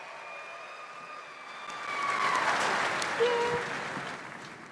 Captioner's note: audience cheers